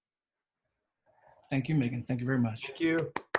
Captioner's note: applause